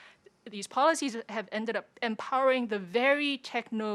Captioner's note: none